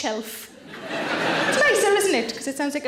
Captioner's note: audience laughing